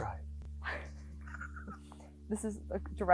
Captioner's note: both laughing